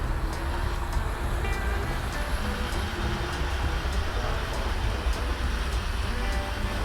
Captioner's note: train whirs; upbeat music